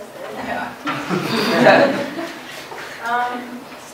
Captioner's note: laughter